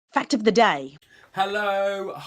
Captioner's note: voiceover